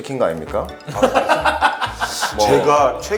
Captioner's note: hahahaha